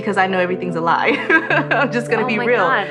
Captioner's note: laughing